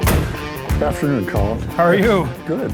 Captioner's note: car door closes; laughs